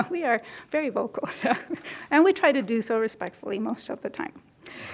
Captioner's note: chuckles